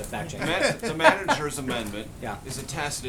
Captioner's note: laughter